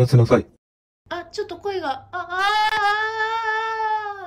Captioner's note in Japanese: おどおどした感じの声